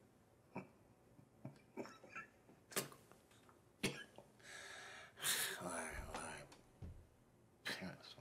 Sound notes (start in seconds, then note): 0.0 laughs; 3.8 coughing